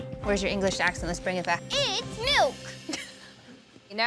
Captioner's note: laughs